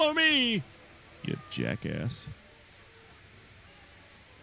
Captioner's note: quietly to Thomas